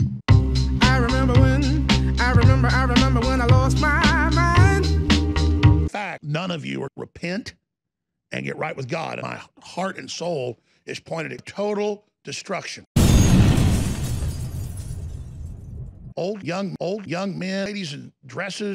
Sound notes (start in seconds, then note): 13.0 loud explosion